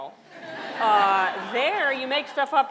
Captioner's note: audience laughter